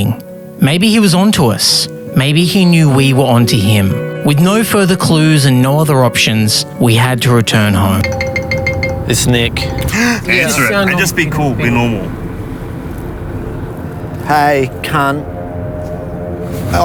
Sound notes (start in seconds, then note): 8.0 cellphone ringing; 9.9 both gasps